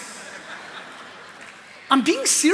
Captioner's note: laughter